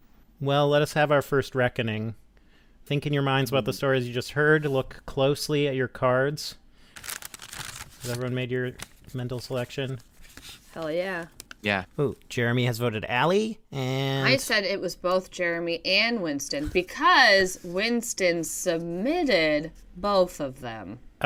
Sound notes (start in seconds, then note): 6.9 cards shuffle